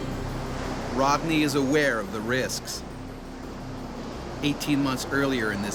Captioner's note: voiceover